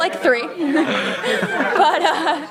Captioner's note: laughter